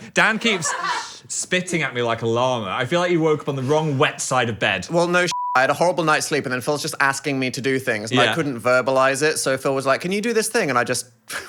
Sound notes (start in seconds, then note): 5.3 beep